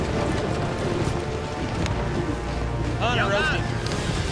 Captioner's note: hoofbeats